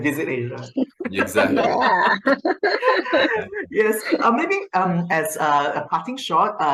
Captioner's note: laughter